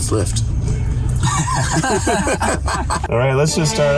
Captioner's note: both laugh